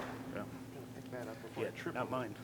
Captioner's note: mumbles